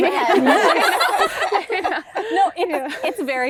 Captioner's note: laughter